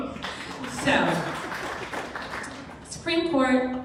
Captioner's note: crowd clapping